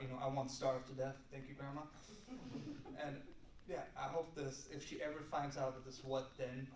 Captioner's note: laughter